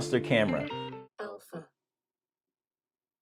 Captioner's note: voiceover